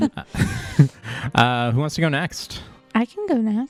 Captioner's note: laughs